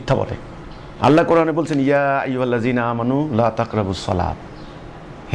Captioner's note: Arabic